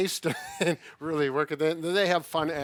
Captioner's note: laughs